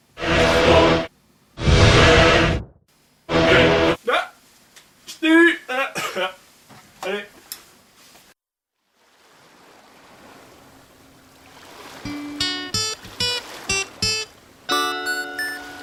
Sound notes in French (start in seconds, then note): 1.6 Musique apocalyptique; 1.6 grondement d'orage; 3.2 Musique apocalyptique